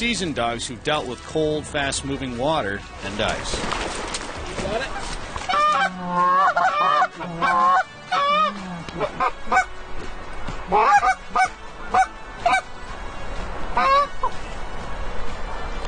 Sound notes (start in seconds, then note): 5.4 goose call